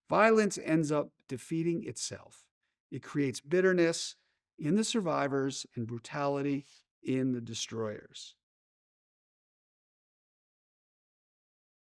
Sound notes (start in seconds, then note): none